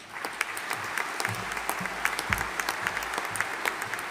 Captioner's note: audience applauding